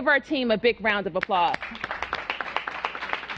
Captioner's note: applause